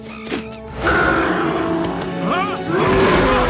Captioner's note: roars